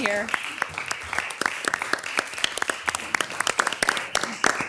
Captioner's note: all applauding